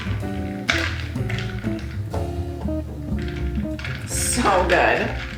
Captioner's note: ice clinking